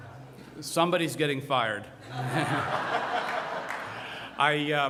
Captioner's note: laughter